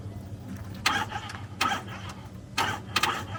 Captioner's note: starter motor struggling, clicking